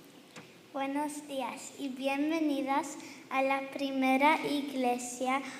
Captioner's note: girl speaking in foreign language